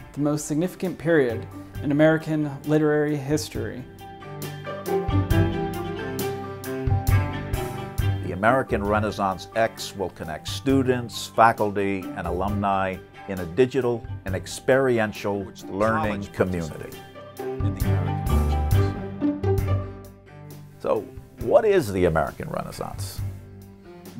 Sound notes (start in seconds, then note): 8.3 voiceover; 21.1 voiceover